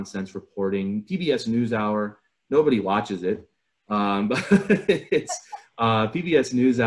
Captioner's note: laughter